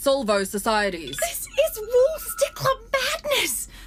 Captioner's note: A throbbing beep as Computer’s system attempts the scan